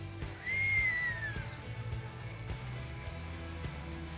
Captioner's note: whistles